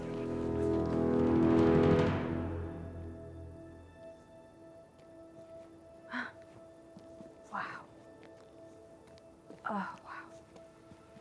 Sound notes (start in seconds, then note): 0.0 dramatic music; 6.5 gasps